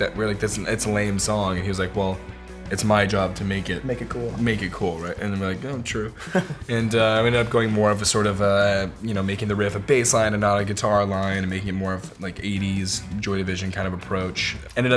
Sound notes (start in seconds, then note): 6.1 laughs